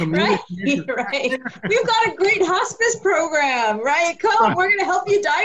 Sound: laughs

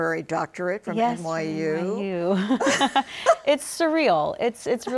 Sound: both laughing

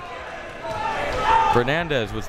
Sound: crowd members shouting

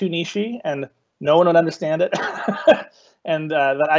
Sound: laughing

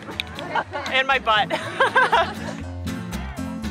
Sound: laughs

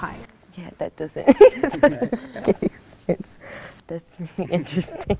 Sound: laughs

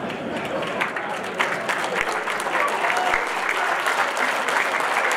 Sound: audience applauding

